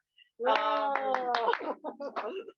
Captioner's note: claps